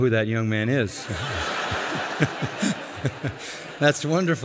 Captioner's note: laughter